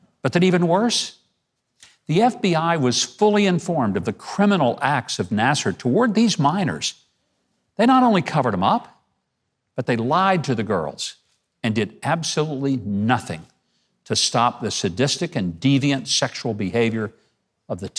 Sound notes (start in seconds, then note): none